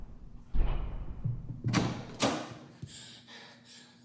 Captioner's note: door opens; breathless panting